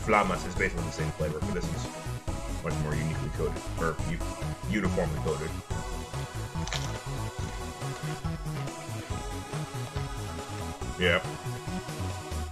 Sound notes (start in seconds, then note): 6.4 crunchy non-silence